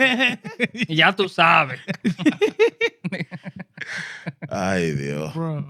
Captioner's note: laughing; speaking In Foreign Language